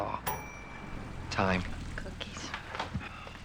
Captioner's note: bell rings